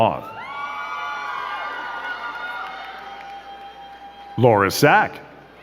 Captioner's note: crowd cheering and clapping